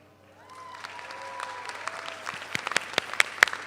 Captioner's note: all applaud